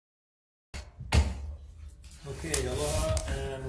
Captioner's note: gavel bangs